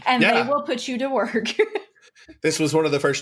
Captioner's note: laughs